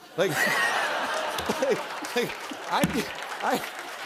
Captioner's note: laughter